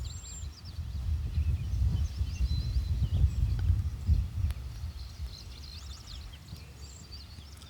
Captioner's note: birds chirping